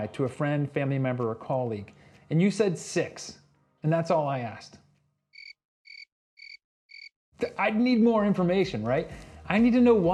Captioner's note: crickets